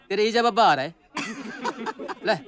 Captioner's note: All laughs